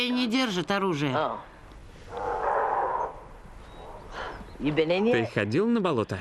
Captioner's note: animal Snarling